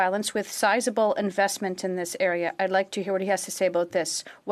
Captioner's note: speaking in French